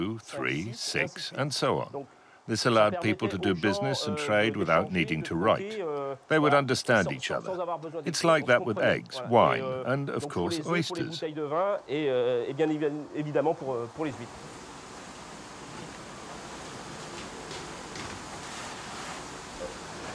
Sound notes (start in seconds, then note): 11.7 speaking in foreign language